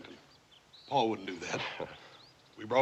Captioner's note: scoffs